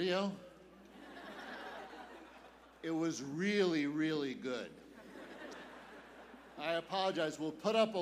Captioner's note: laughter